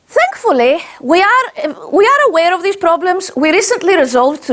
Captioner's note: none